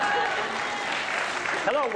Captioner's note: applause